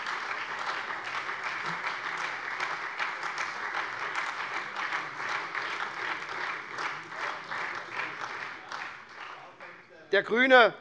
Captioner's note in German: Beifall SPD, Freie Demokraten und DIE LINKE